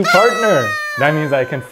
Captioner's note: party horn blares